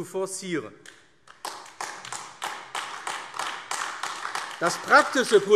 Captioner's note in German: Beifall AfD